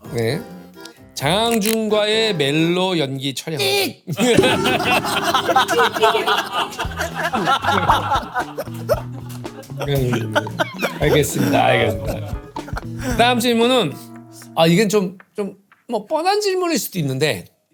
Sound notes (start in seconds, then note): 5.6 hahaha